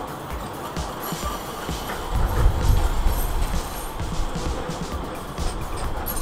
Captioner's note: tram wheel squeals